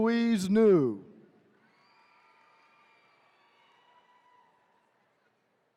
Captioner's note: attendees cheering